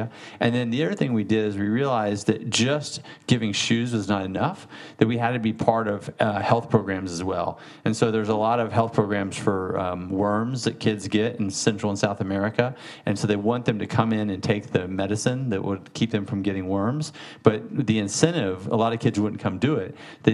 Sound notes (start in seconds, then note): none